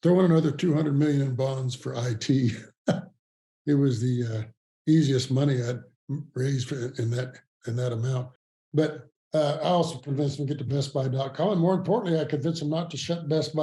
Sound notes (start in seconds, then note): 1.9 chuckles